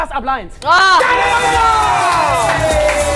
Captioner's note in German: Freudiger Ruf